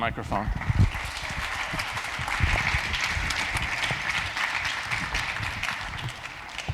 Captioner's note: applause